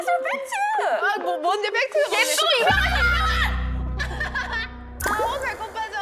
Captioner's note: laughter from the gut